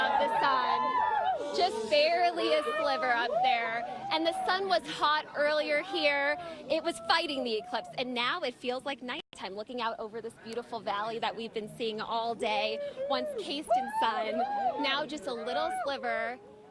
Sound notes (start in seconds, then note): 0.0 cheers and applause